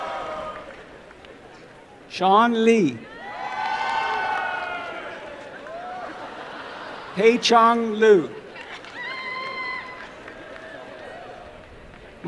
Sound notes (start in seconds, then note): 5.0 applause and laughter; 8.6 applause and cheering